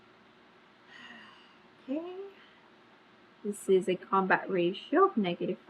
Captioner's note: exhales loudly